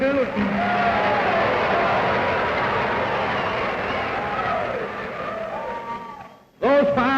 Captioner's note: cheers, applause